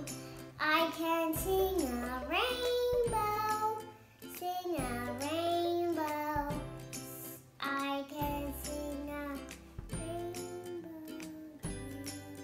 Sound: whispers

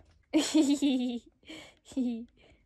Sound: evil laughter

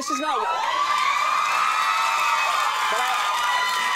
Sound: audience cheering

